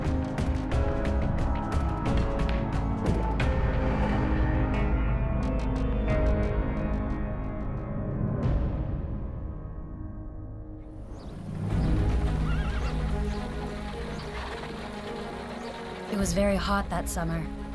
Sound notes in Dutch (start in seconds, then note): 11.0 intense orkestmuziek; 12.3 hinnikend paard